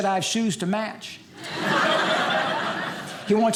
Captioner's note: audience laughing